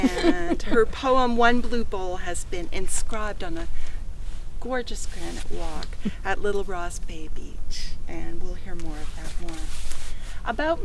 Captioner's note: chuckles